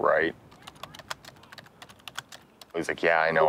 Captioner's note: typing